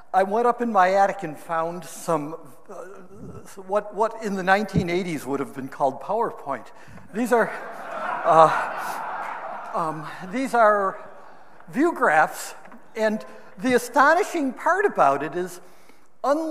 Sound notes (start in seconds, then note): 7.2 audience laughing